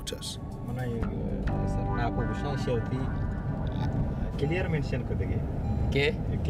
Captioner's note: people speaking foreign language